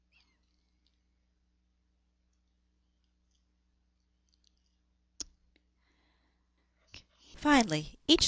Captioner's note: pause